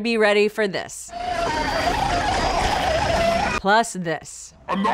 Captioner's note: demonic screaming